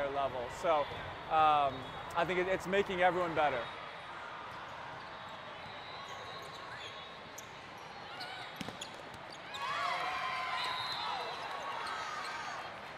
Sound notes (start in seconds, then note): 6.5 crowd chatter; 9.5 players cheering